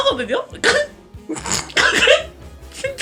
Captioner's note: holding back laughter